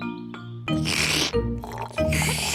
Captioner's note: both slurping